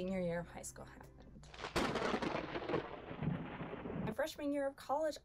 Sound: lightning crackles and rumbles

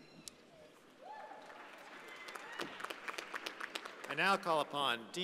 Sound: audience applauding

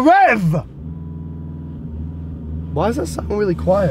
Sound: car humming

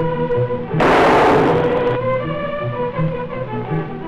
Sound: gunshot

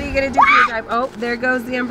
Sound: screams

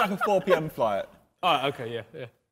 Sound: men laughing

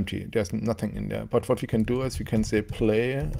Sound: keyboard clacking

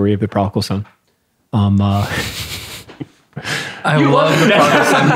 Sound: laughing

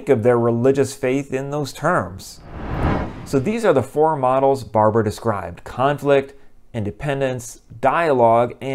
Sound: swoosh

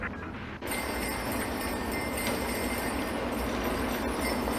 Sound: bells jingling

